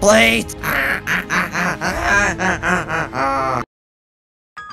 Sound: evil laughter ensues

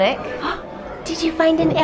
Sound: gasping

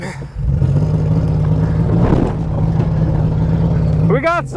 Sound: vehicle engine roaring

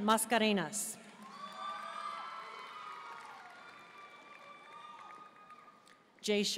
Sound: audience cheering and applauding

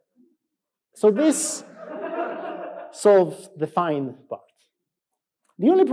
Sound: laughs

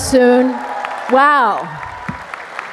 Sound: cheers, applause

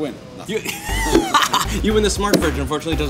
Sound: laughs

